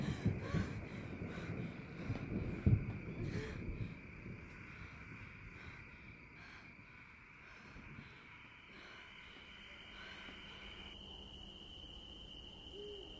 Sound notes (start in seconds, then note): 0.1 Allie panting; 2.3 footsteps thudding; 5.6 insects chirping